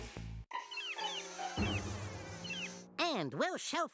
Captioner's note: flies buzzing